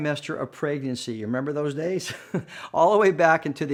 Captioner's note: chuckles